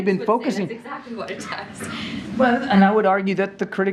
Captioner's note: laughs